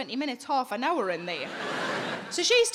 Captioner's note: audience laughing